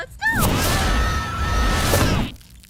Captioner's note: screaming